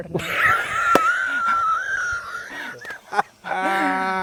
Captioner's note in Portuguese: risos